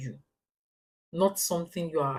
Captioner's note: paause